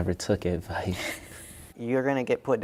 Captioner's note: laughs